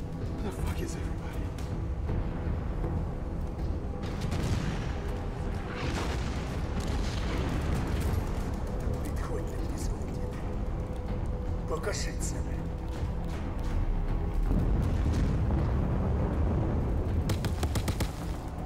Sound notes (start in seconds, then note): 6.7 explosions; 9.2 non-english speech; 17.2 guns firing